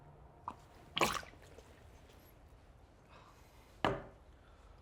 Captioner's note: Danny spits